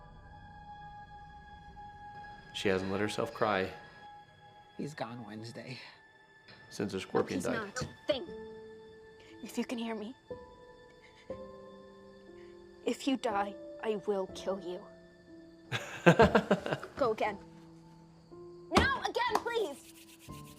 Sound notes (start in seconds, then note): 0.2 somber music; 15.7 laughs